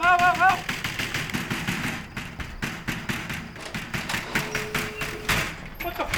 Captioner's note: banging on door